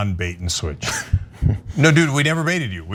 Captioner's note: laugh